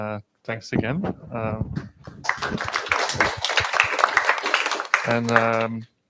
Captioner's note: applause